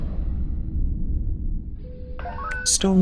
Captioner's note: bridge sounds